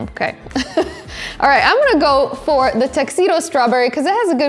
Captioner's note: chuckles